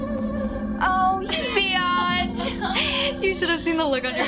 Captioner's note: Maya laughing